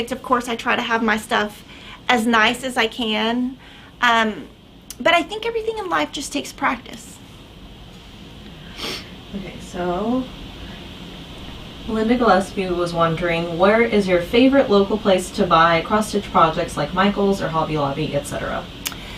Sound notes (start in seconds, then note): 8.7 sniffs